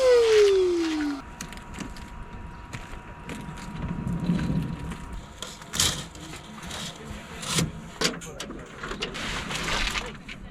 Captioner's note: laughs